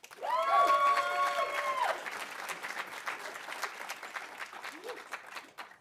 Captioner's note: audience applauding; audience cheering